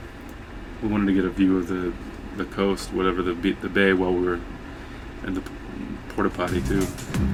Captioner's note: mumbling incoherently about the porta potty